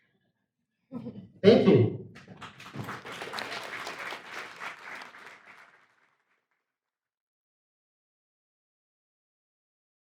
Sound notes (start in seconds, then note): 2.2 audience applauds